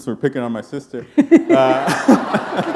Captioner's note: laughter